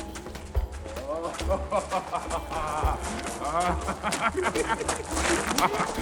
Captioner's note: man laughing